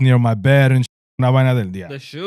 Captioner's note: speaking In Foreign Language